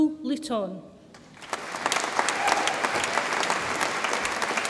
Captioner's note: audience applauds